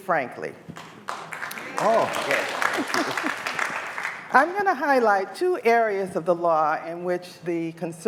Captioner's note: applause